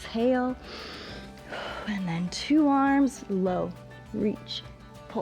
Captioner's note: inhales and exhales